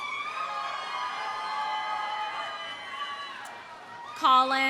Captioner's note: audience cheering; audience applauding